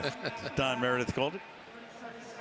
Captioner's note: laughs